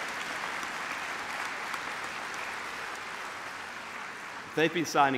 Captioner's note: applause